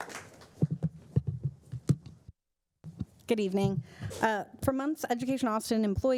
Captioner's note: applause